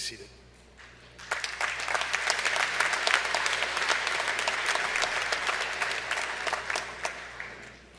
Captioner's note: applause